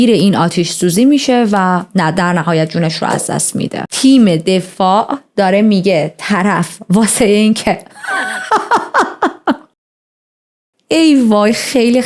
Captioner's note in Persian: خنده